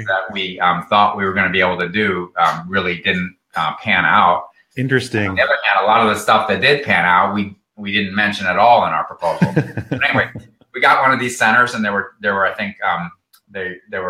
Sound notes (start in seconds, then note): 9.2 laughs